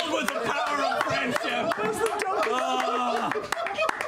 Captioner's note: laughter, applause